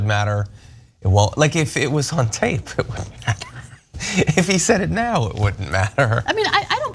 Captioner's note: laugh